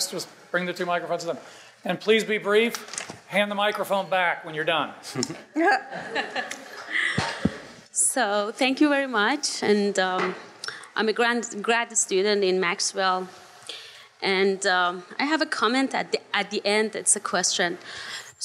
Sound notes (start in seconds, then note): 5.9 audience laughing